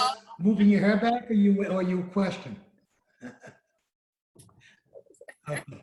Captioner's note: laughs